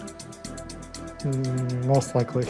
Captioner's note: chuckles